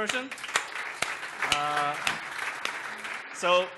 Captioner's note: applause